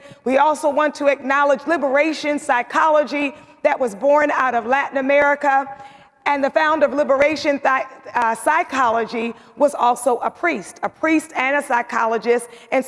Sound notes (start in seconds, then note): none